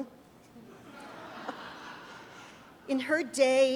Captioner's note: audience chuckles